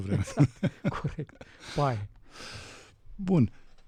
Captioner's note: laughter